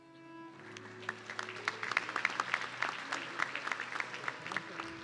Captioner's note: audience clapping